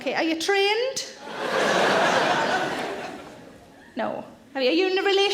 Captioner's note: audience laughing